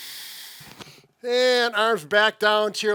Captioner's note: long inhale